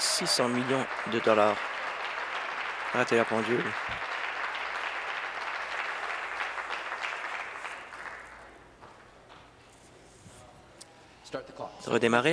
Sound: applause

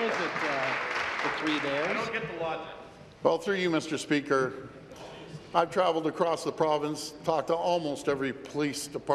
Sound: applause

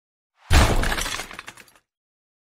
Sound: crash

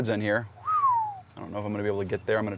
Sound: whistles

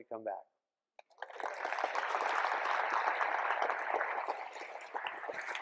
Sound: applause

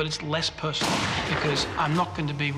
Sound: gun fires

